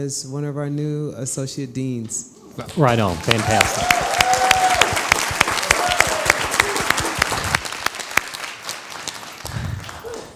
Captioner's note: crowd applause